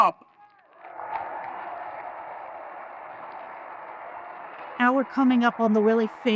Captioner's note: audience applauding and cheering